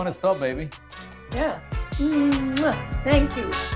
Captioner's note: smooching